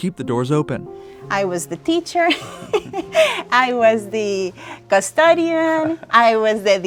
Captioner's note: laughs